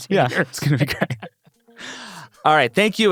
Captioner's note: laughs